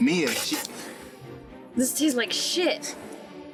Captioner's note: Mia spits